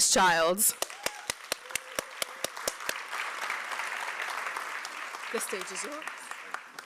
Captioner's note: applause